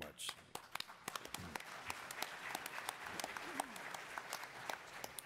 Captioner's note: attendees applauding